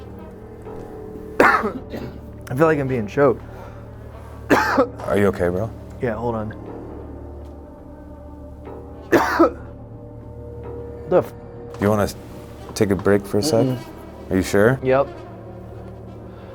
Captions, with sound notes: (coughs) - I feel like I'm being choked. (coughs) - Are you okay, bro? - Yeah, hold on. (coughs) What the? - Do you wanna take a break for a sec? Are you sure? - Yep.